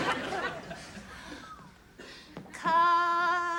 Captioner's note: laughter